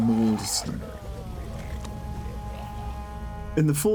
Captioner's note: snarling